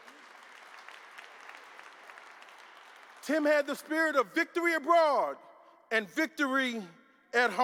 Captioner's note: applause